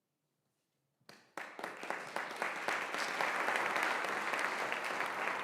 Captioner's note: audience applauding